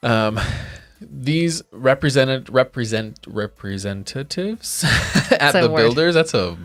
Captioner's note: chuckling